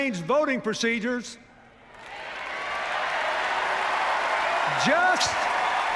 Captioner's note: jeers